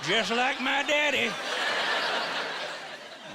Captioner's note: laughing